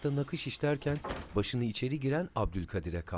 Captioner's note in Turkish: Kapı açılma sesi